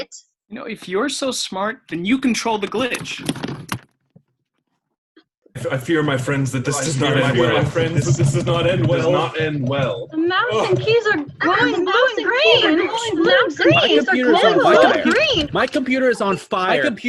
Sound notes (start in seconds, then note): 9.0 distorted echoes